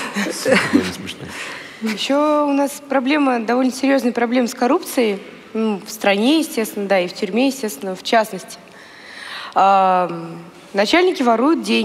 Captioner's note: foreign Language